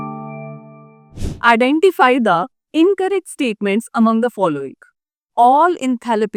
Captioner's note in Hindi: नाक से की जाने वाली आवाज़